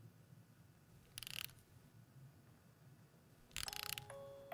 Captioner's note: winder clicking; soft jingle